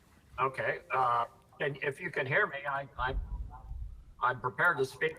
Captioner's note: audio echo